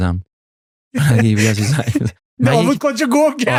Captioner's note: laughs